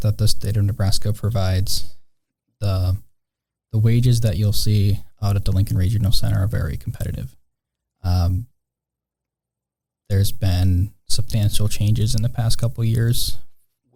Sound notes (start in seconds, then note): none